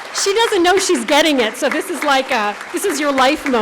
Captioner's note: applause